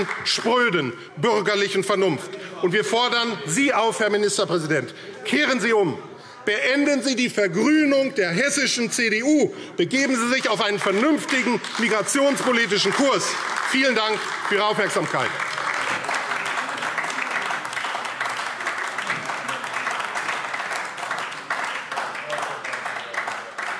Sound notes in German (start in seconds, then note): 9.5 Beifall AfD